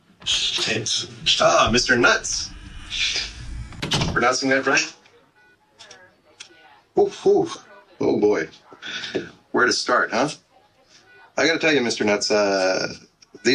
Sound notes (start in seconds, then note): 2.6 door close; 5.3 busy hospital; 8.0 background chatter